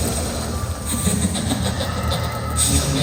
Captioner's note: laughing